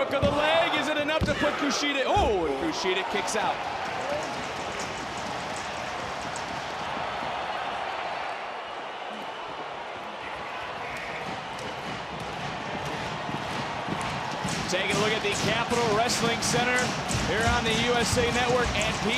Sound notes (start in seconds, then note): 3.8 audience cheering